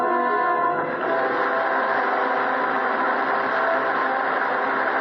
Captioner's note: applause